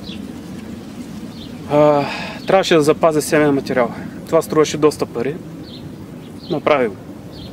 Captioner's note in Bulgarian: Въздишак